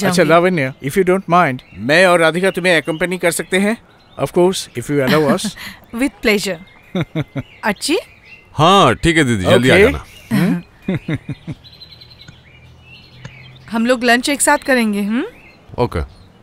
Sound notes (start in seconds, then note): 6.9 laughs